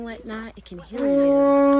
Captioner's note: loud horn is blown